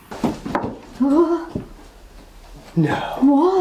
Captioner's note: gasps